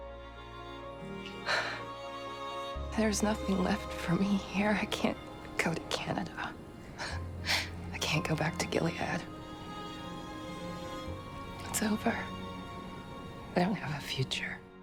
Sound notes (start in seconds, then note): 1.1 June exhales; 6.7 Serena laughs; 12.0 voiceover